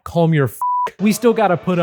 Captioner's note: beep